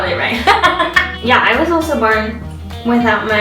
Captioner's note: laughs